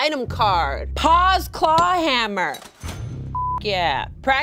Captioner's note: beep